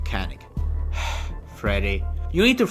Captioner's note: sighs